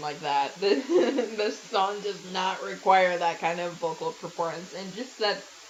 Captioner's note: giggles